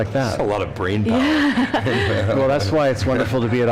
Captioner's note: laughs